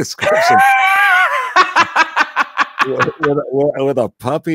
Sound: laughing

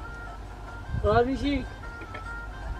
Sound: farsi

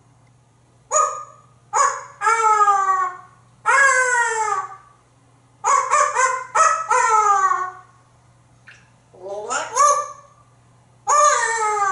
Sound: random dog barks

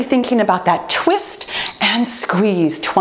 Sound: timer beeps

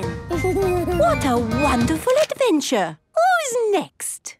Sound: Danny giggles

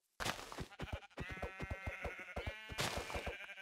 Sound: sheep bleat

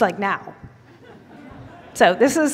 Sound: laugher

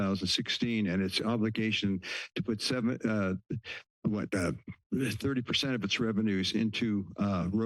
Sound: stutters

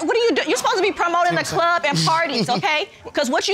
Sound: giggling

